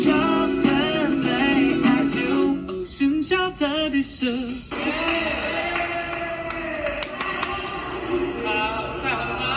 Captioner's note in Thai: ปรบมือ